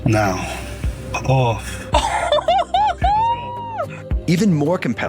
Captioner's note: friend laughing